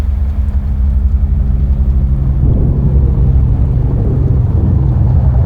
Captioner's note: the distant rumble of a helicopter